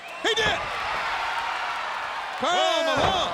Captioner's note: audience cheers